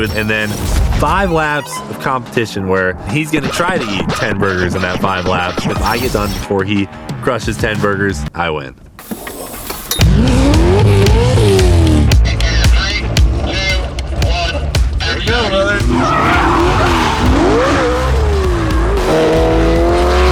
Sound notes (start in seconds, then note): 10.0 engine revving; 15.7 engine roaring; 16.1 intense music